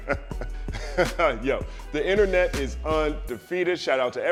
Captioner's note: laughs